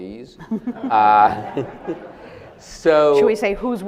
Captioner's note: audience laughs